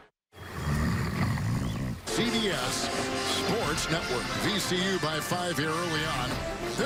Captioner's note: snoring